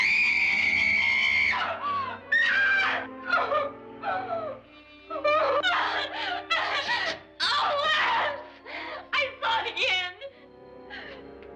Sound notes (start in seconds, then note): 0.0 Nora screaming; 0.0 dramatic music; 3.0 Nora sobs; 3.0 dramatic music